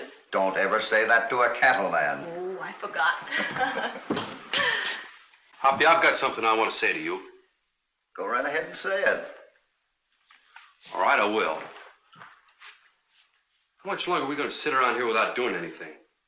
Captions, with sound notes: Don't ever say that to a cattle man. [ GIGGLING ] Oh, I forgot. Hoppy, I've got something I want to say to you. Go right ahead and say it. All right, I will. How much longer we've got to sit around here without doing anything?